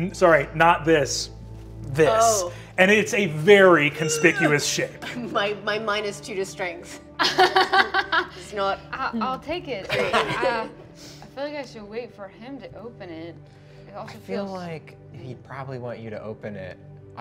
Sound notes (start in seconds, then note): 9.8 laughing